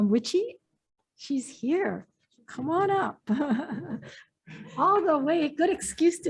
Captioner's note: laughs